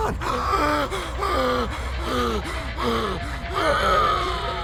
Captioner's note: gasping for air